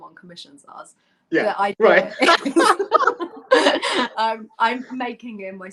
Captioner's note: laughter